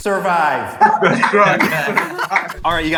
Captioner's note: laughter